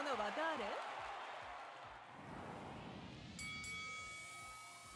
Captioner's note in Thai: ปรบมือ